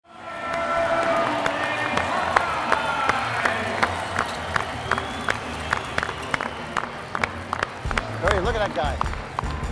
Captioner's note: clapping